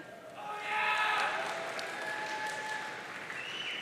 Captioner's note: audience cheering